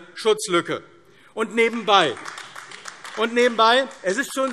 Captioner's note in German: Beifall AfD